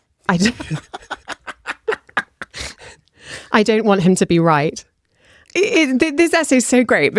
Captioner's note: laughter